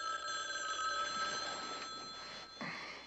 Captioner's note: Telefon çalıyor